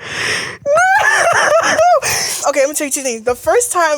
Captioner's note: laughs